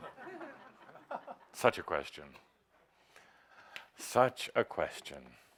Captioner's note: laughter